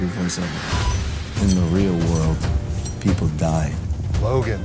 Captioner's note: voiceover